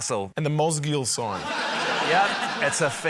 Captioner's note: laughter